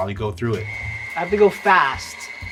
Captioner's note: grinder whirling